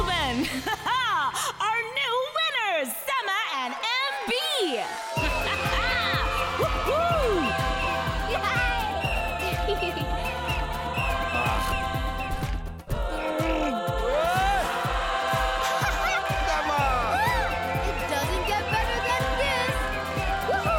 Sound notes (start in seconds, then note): 5.2 laughing; 5.7 crowd cheers; 7.9 laughter; 11.5 grunting